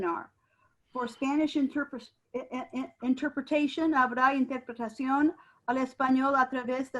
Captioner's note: speaking in foreign language